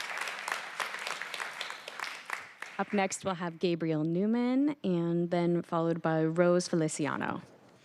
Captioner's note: applause